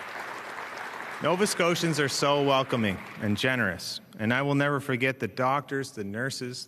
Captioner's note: applause